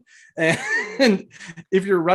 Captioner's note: laughing